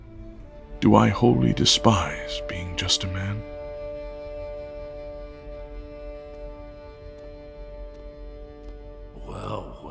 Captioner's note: approaching footsteps